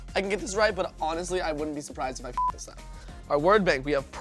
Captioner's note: beep